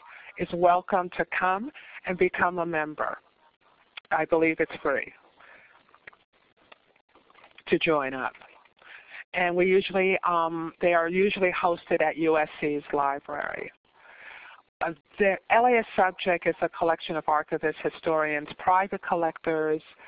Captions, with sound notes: is welcome to come and become a member. I believe it's free [pause] to join up. And we usually, they are usually hosted at USC's library. The LA as Subject is a collection of archivists, historians, private collectors,